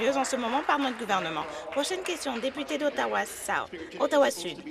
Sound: applause

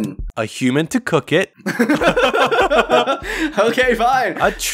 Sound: laughter

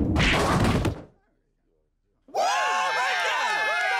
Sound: cheering

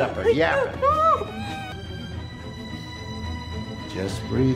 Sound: screaming

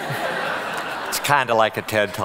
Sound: audience laughing

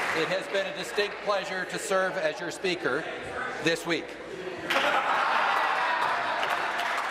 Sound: applause

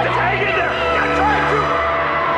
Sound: incoherent screaming

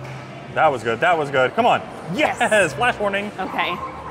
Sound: laughs

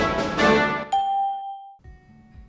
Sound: ding

